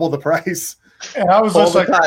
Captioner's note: laughs